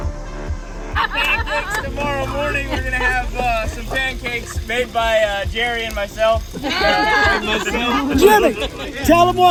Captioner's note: cheering